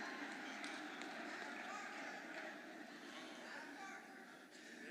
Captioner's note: indistinct audience chatter